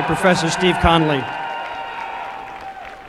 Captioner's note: applause and cheering